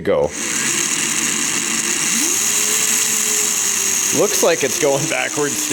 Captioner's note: RC engine running